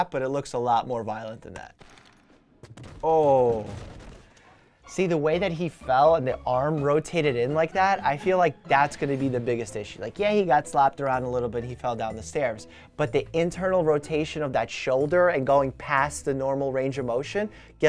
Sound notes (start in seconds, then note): 1.9 banging